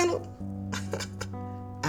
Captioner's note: chuckles